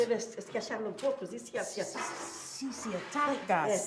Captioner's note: speaking Italian